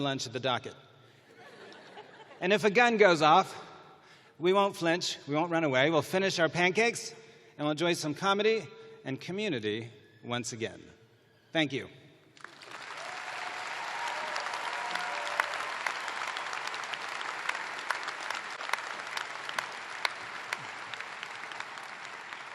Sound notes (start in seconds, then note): 5.9 applause